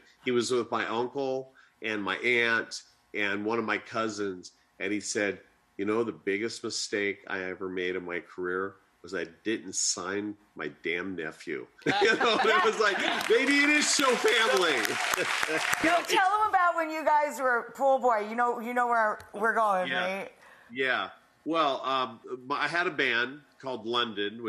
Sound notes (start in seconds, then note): 11.8 laughs; 14.6 cheering and clapping